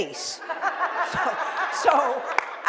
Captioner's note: laughs